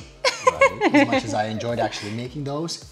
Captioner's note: laughs